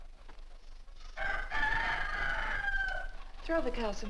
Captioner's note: rooster Crows